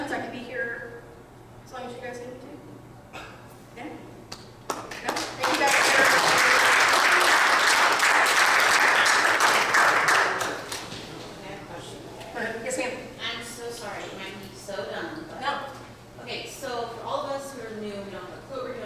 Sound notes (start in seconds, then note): 4.7 audience applauding